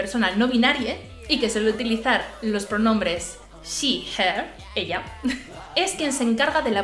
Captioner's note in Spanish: ella en español